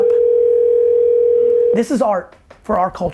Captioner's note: phone rings